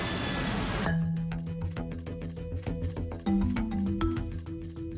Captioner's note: plane engine roaring; bright upbeat music